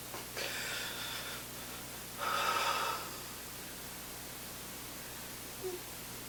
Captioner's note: exhaling; sobbing